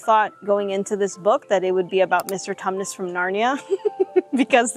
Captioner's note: laughs